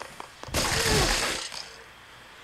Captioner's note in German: Blut spritzt; Elfen stöhnen